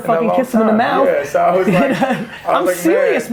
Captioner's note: laughs